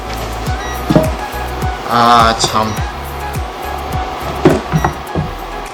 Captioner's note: panicking